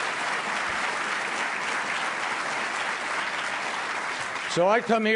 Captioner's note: applause